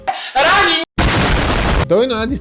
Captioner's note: explosion